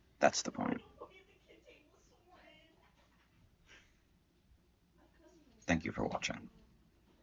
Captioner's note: quiet chatter from the other room